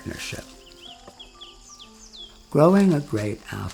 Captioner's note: birds chirping